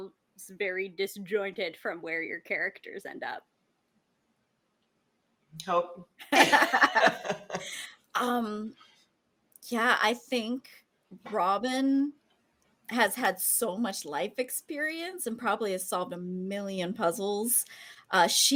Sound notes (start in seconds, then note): 6.2 laughs